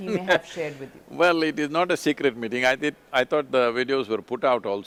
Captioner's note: laughs